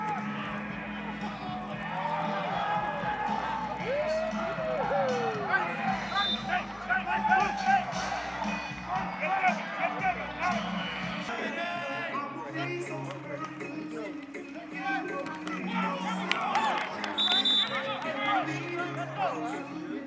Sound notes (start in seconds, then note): 7.1 players shouting; 17.1 whistle blows